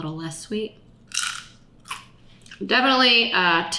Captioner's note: carrot bacon crunching